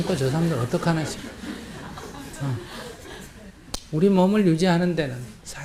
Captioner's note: audience Laughter